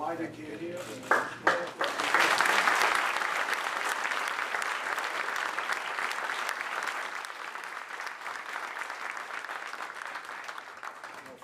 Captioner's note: applause